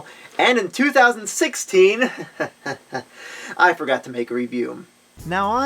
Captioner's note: chuckles